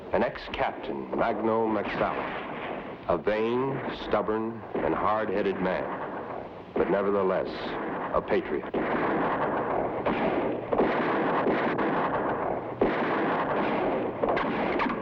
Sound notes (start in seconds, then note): 9.8 gunshots blast